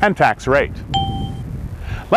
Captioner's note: ding